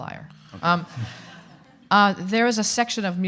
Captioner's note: audience laughing